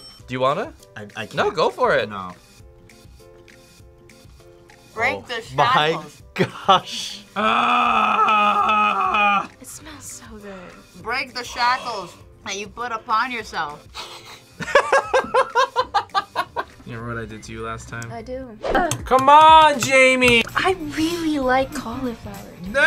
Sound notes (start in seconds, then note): 13.9 sniffs; 13.9 laughs